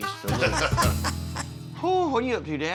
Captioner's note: everyone laughs